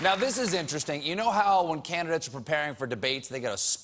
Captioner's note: applause